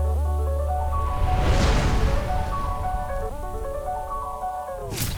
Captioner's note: upbeat music; words whooshing